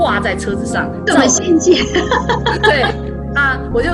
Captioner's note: laughter